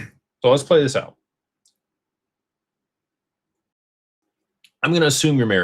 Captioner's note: clears throat